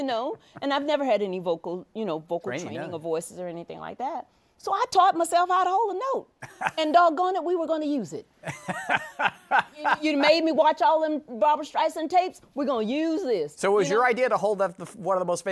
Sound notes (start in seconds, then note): 8.4 laughs